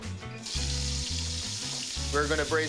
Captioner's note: sizzling